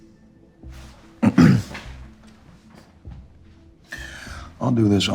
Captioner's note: clears throat